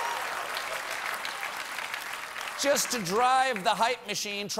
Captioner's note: cheers and applause